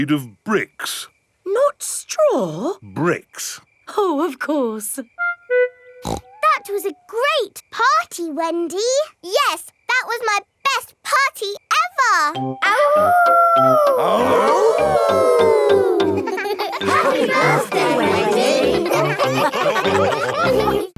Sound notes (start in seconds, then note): 6.0 snorts; 13.5 howling; 14.9 all howling; 19.5 all laughing